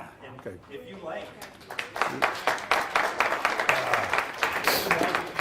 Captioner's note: applause